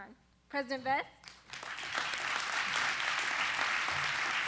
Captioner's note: applause